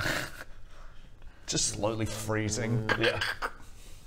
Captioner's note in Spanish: crkkk